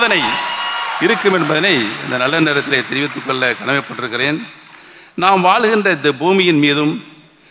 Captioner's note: applause